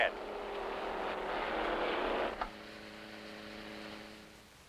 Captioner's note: engines revving